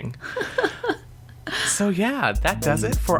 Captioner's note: laughs